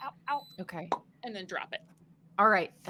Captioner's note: imitates popping